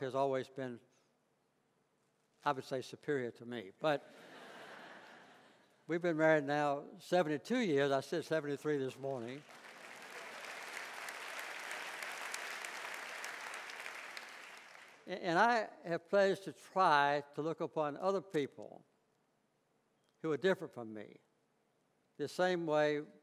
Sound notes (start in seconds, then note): 4.1 laughter; 9.2 clapping